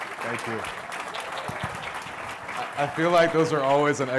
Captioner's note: applause